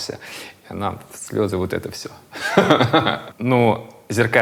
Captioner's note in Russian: смеётся